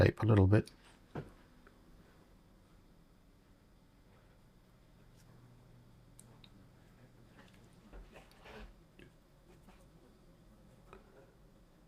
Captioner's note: silence